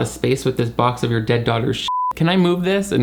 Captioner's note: beep